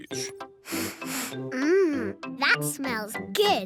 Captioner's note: sniffs